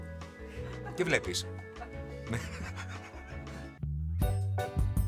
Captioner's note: laughs